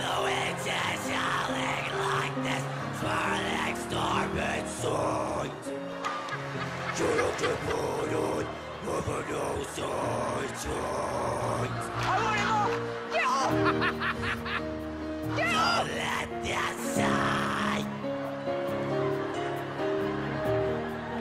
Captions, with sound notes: THE WIND IS HOWLING LIKE THE SWIRLING STORM INSIDE!!! CAN'T KEEP IT UP HEAVEN KNOWS THAT I TRIED Get off! (Laughter) Get off! DON'T LET THEM IN